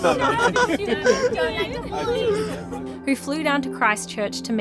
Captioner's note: chattering; laughing